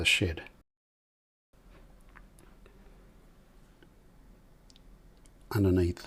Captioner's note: silence